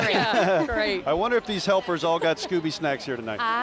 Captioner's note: laughing